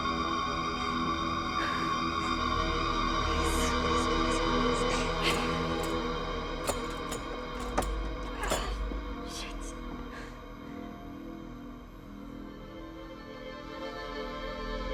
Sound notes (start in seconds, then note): 6.6 door clicks; 10.6 dark and disturbing music